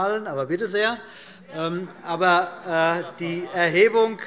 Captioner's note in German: Heiterkeit BÜNDNIS 90/DIE GRÜNEN und vereinzelt CDU - Zurufe SPD